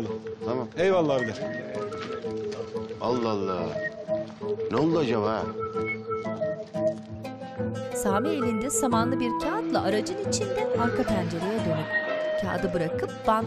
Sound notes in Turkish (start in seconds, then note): 1.4 Hep bir ağızdan; 6.4 Müzik - Hareketli